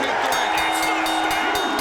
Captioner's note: audience cheering; bell rings